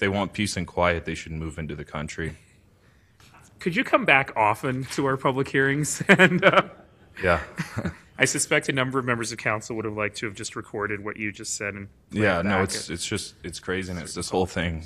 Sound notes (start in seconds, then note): 5.9 laughter